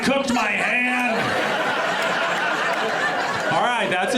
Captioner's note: audience laughs